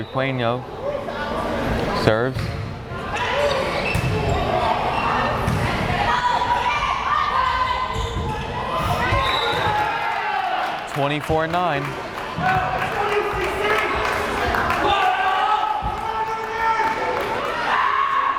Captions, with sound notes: Sandy Requeno serves. (whistle blares) 24-9! (crowd cheering)